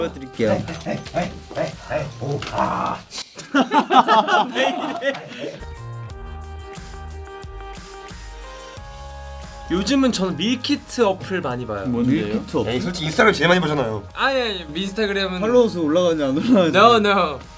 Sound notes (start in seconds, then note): 3.1 laughs; 5.7 soft bright music